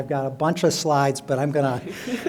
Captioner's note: laughter